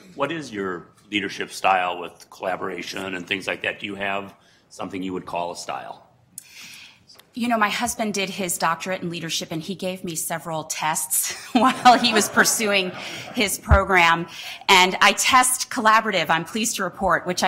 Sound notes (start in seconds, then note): 11.2 laughter